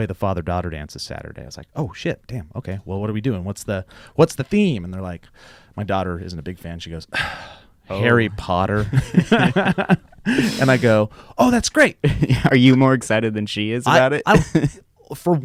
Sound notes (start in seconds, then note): 7.1 sighs; 8.7 laughing